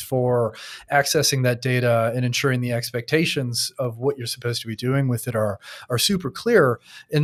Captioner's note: none